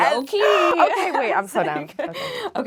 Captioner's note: gasping